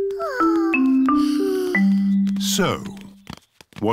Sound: peppa and george sigh

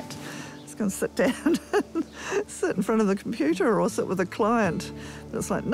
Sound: chuckles

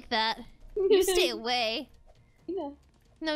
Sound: Goldy giggles

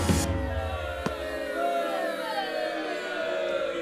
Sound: crowd boos

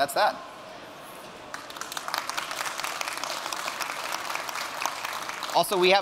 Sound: applause

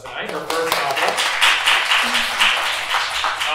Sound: applause

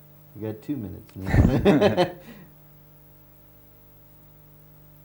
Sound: laughs

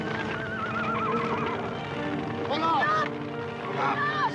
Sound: horse whinnying

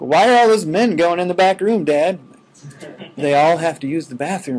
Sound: students laughing

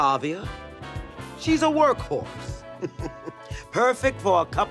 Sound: chuckles

